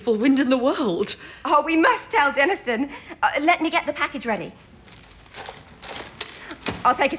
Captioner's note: papers rustling